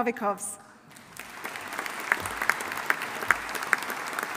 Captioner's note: audience applauding